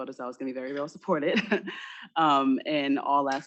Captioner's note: chuckles